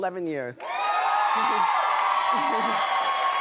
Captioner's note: cheering